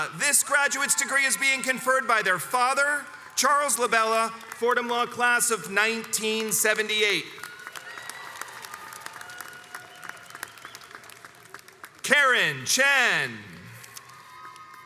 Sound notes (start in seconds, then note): 7.9 crowds cheers and applauds